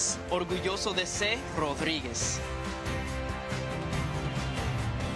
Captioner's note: speaking in foreign language; upbeat music